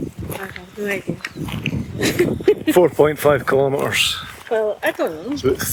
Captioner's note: laughter